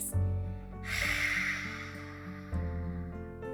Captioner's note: exhales